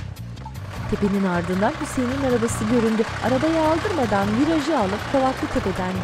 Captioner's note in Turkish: Araba sesi